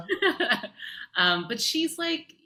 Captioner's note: laughing